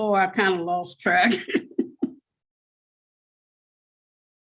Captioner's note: laughs